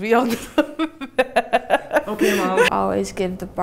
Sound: loud laughter

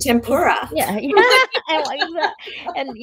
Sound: both laughing

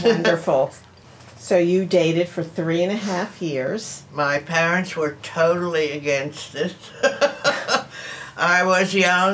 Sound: laughs; laughs

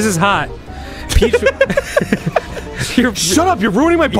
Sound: laughing

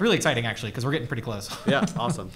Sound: chuckles

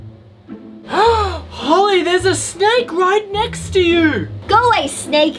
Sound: gasp

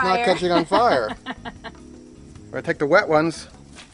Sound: woman laughs

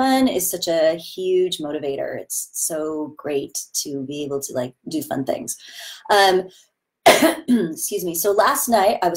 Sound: cough

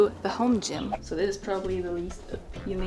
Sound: wind whooshing

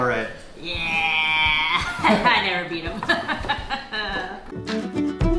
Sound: laughter

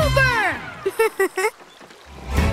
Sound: laughing

